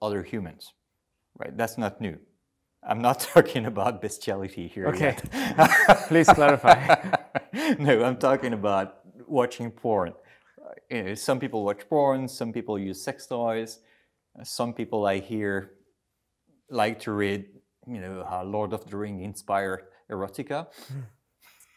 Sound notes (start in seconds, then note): 4.9 laughter